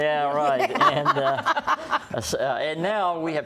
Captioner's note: laughter